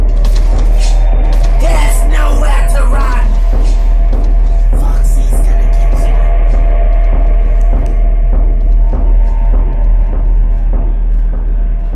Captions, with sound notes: There's nowhere to run! Foxy's gonna getcha! *Footsteps and scrape very faint now* *click*